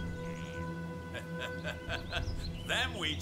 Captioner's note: laughing